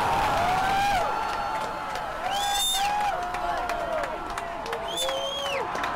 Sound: crowd cheering

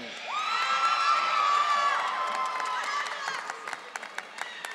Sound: audience cheering

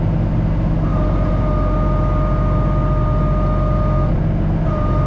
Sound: tractor whirring

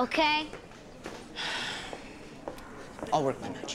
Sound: sighs

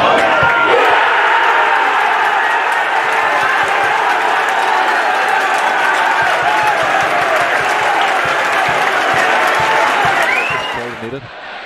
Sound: crowd celebrates

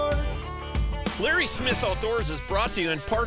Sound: voiceover

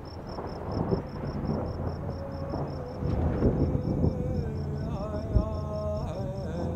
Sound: thunder claps

